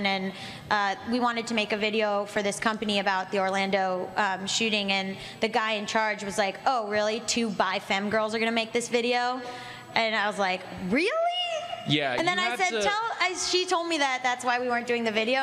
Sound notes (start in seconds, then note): none